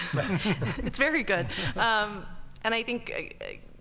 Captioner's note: group laughing